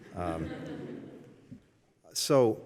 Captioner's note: laughter